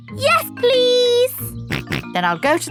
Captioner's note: snorts